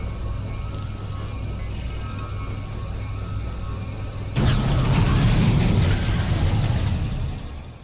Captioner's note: tense music; explosion